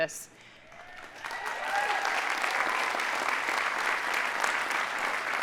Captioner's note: audience applauding